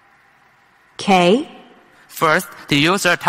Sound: voiceover

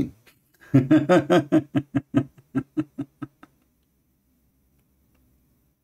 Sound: Ketawa

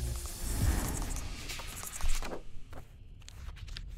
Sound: pencil scribbling

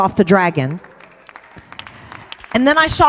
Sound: congregation cheers

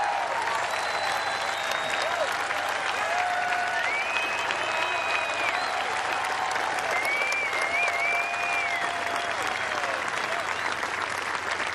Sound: cheers and applause

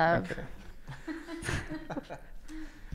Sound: laughs

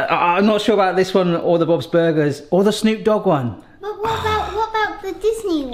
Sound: sighs

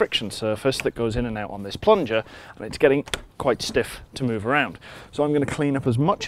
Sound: clunk

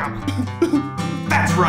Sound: man sobbing

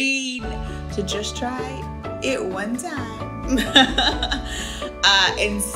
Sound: laughs

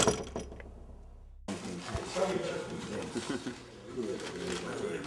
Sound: chattering

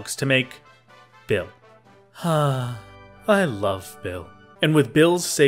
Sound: dreamy sigh

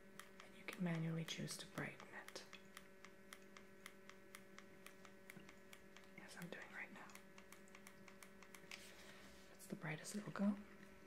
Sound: clicking; clicking

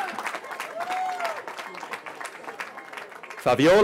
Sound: cheering

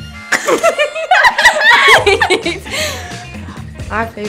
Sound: laughter

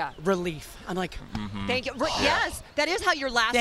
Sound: sighs

